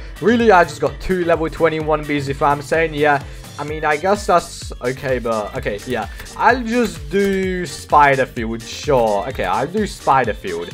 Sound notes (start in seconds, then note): 3.6 mumbles